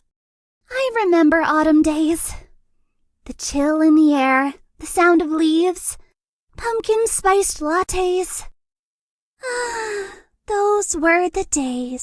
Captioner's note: sigh